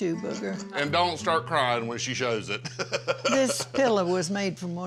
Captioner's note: chuckles